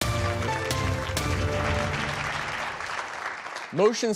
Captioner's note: audience applause